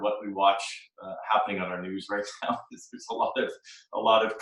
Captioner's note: chuckles